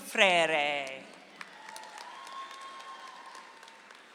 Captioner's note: audience applauds